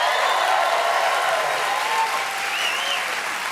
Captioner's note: cheers and applause